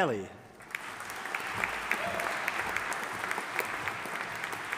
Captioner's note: audience applauding